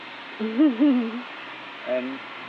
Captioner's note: chuckling